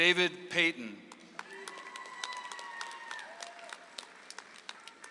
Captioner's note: audience applauds